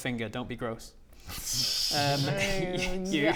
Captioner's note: disappointed laugh